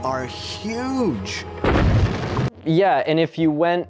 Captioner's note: explosion